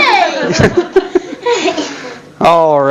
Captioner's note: audience laughter